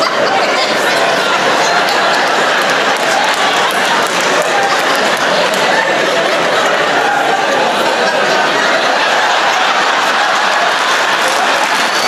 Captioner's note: laughter